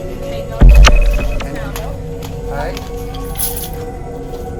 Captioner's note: humming frequency; group chattering